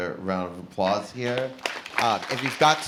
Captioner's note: applause